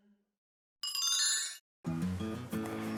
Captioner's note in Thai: เสียงเอฟเฟกต์